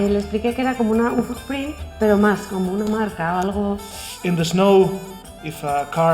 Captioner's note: Spanish